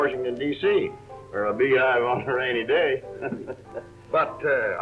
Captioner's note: laughs